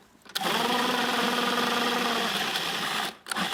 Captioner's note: food processor whirring